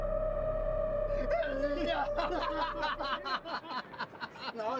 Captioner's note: laughter